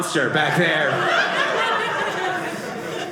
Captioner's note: audience laughing